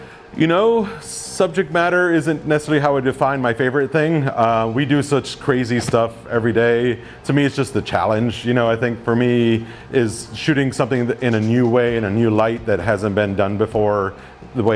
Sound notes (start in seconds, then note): none